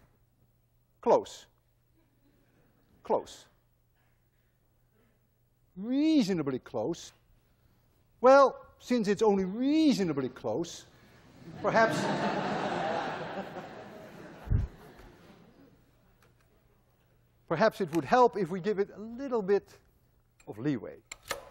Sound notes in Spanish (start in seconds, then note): 11.4 clase se ríe